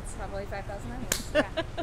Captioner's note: laughs